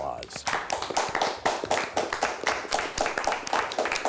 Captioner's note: clapping